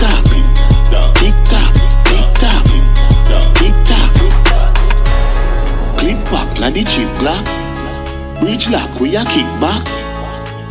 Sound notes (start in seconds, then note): 3.7 echoing word